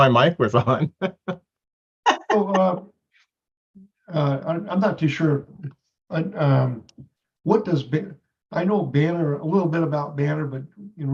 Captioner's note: laughs